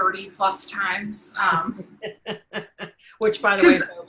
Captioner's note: giggling